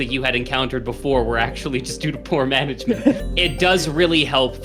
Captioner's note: chuckles